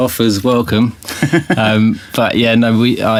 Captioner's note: giggle